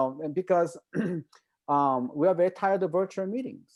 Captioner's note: clears throat